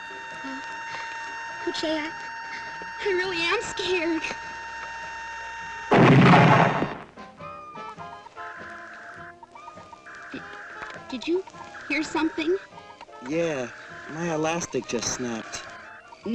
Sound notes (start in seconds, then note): 5.9 explosion rumbles